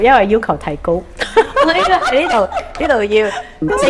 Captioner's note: laughs